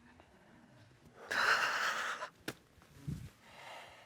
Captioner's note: sobs